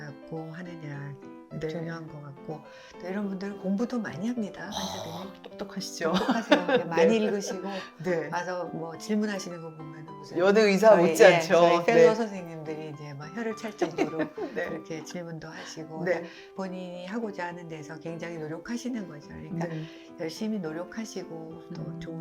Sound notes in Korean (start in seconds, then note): 4.7 콧방귀; 13.7 웃음